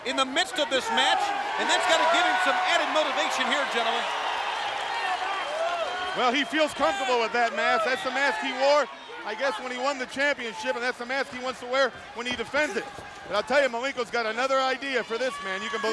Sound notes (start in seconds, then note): 4.2 crowd cheering